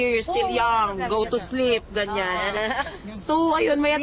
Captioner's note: laughs